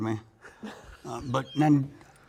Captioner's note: chuckles